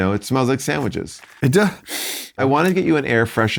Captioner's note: sniffs